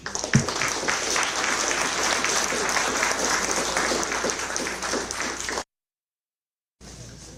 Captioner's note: applause